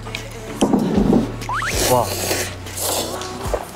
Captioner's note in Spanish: Slurp